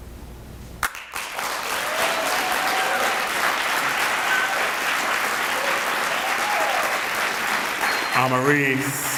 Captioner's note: applause